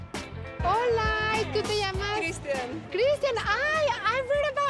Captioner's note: speaking Spanish